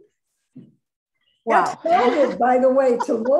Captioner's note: laughs